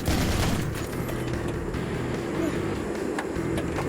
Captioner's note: gun fires